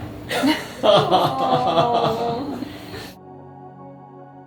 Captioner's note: everyone laughs and awws